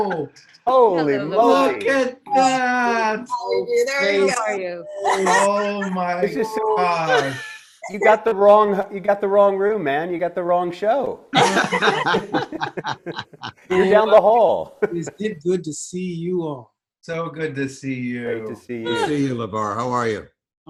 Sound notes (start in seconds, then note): 4.8 laughs